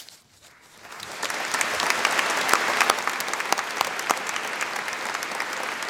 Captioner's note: applause